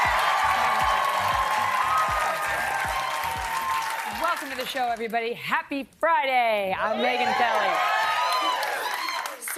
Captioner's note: applause